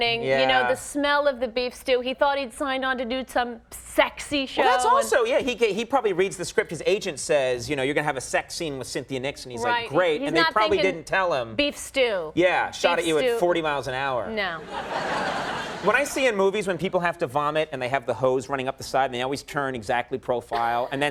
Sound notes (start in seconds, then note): 14.6 audience laughing